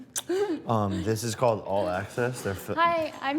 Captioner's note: laughs